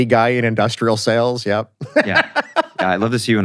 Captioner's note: laughs